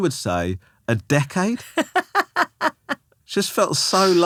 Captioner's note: laughing